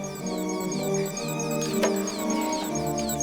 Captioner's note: tense music; rapid beeps